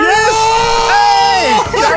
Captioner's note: laughter